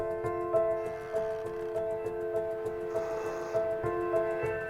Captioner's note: tree creaking